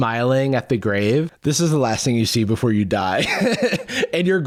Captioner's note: laughs